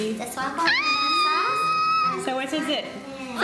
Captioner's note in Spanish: Squeeling tono alto